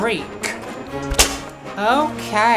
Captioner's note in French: woosh